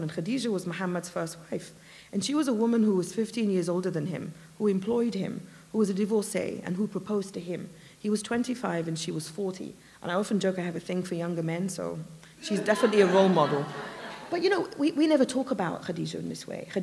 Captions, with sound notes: And Khadijah was Muhammad's first wife, and she was a woman who was 15 years older than him who employed him, who was a divorcee, and who proposed to him. He was 25 and she was 40, and I often joke I have a thing for younger men so [laughter] she's definitely a role model. But you know, we never talk about Khadijah in this way.